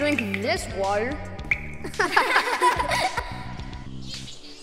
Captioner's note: all laughing